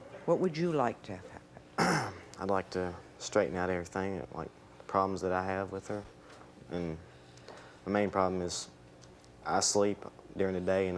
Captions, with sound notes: What would you like to have happen? - (cleans throat) I'd like to straighten out everything, like problems that I have with her. And the main problem is I sleep during the day